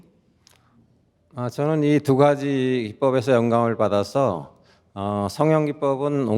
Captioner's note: speaking in Korean